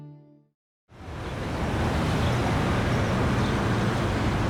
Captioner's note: sounds of street traffic